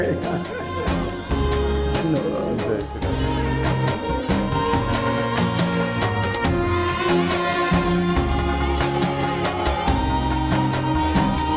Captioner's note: non-english speech